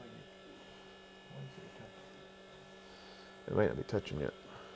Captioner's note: machine hums